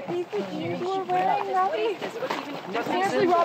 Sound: all chattering

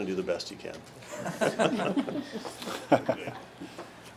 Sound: laughing

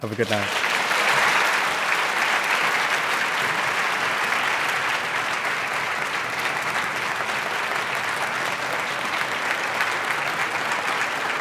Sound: applause

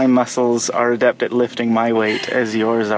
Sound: laughs

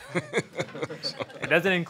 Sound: audience laughing

